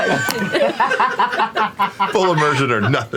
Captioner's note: laughter